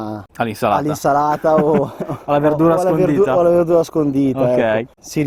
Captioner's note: laughing